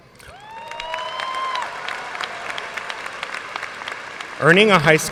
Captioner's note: audience cheers and applauds